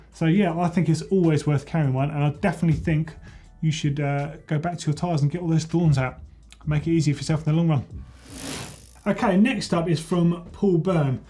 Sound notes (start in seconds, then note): 8.1 bike wheel spinning